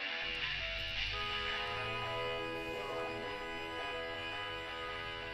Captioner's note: truck horn honking